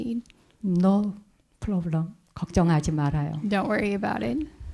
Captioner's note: speaking in Korean